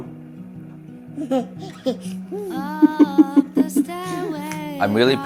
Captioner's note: and baby laughing